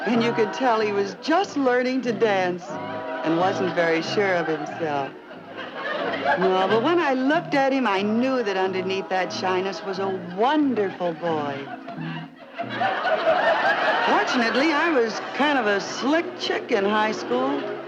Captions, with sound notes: And you could tell he was just learning to dance. And wasn't very sure of himself. (audience laughing) Well, but when I looked at him, I knew that underneath that shyness was a wonderful boy. (audience laughing) Fortunately, I was kind of a slick chick in high school.